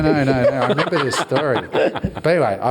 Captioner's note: all laugh